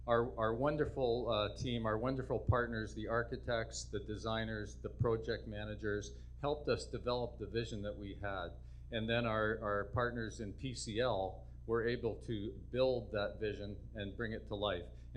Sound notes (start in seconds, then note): none